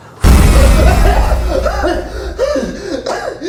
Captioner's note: intense eerie music; Miles coughs; Miles pants